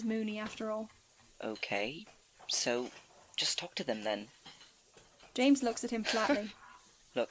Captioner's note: Remus laughs